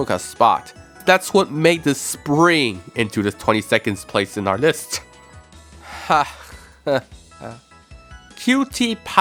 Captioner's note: nervous laugh